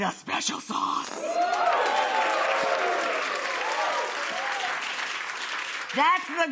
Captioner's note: audience cheers and applauds